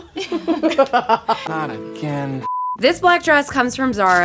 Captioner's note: everyone laughing; color bars beeping